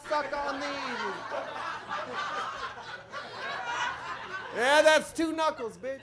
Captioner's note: audience laughs